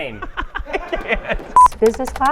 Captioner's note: laughs